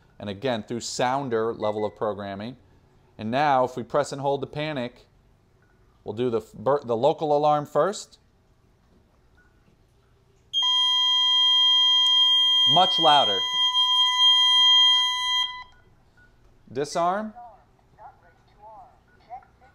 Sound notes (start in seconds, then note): 10.5 loud tone